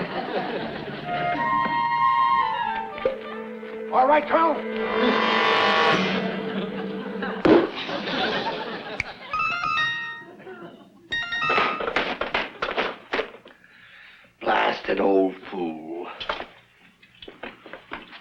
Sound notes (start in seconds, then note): 0.0 bright playful music; 0.0 audience laughs; 5.3 dramatic music; 7.5 audience laughs; 9.0 finger snaps; 9.0 whimsical chimes; 11.4 Colonel slapping